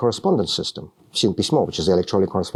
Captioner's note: speaking russian